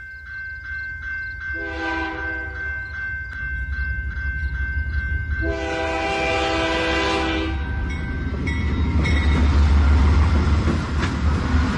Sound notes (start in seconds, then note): 1.5 train wistle blowing; 9.6 train is passing